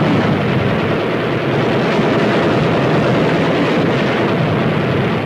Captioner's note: guns firing